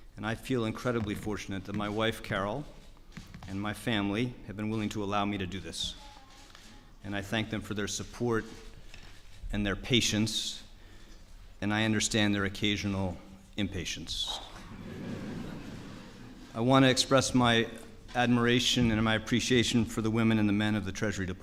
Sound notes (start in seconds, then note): 14.6 laughter